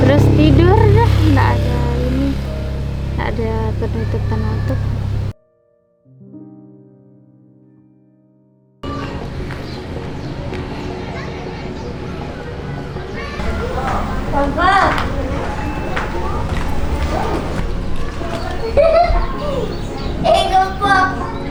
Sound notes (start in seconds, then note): 14.0 kids mumbling; 17.5 kids playing